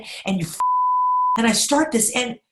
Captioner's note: beep